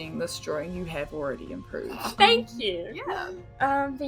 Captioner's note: snorts